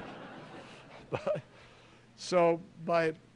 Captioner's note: laughter